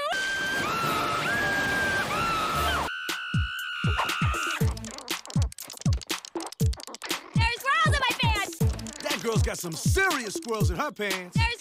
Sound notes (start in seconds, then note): 3.8 screaming